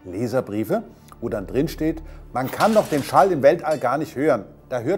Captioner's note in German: Glas zerbricht